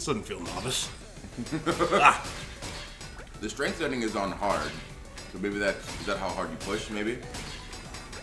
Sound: laugh

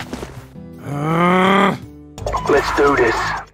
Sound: groans

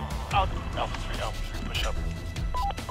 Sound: radio

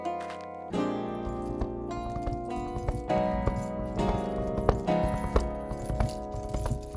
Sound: galloping hooves

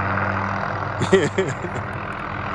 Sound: laughter

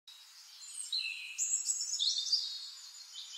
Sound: birds chirping

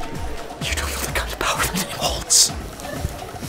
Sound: whisper

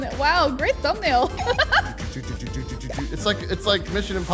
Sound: laughs

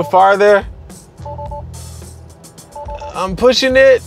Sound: beeping

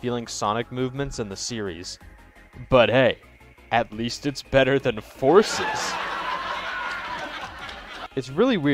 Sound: laugh track

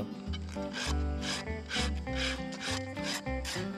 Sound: metal scraping

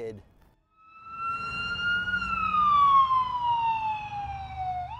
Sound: police siren

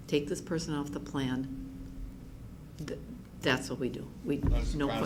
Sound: chatter in the background

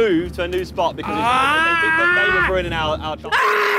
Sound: screams

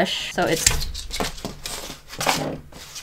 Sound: dog scuffles in the background

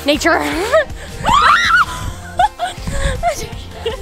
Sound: both screams

